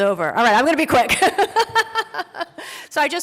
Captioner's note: laughs